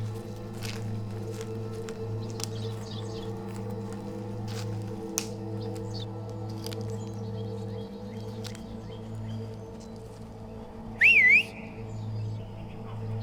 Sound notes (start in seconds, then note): 8.6 man whistles; 11.0 dramatic music